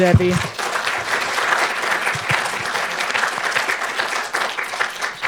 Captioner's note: audience applauding